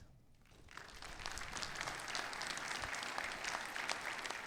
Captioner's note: audience applauds